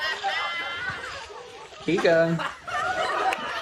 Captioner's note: laughter